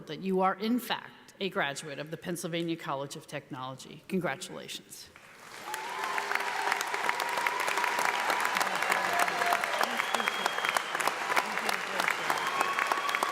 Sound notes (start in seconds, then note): 5.2 audience applauding